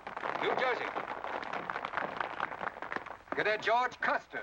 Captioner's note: crowd applause